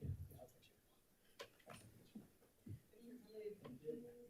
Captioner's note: faintly speaking